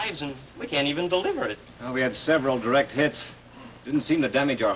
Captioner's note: none